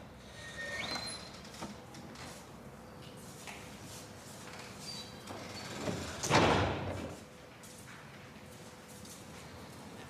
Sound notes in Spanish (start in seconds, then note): 6.2 portazo